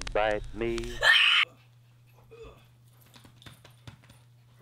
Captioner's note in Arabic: صراخ